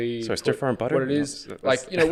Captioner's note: laughs